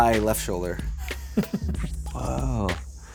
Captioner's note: laughs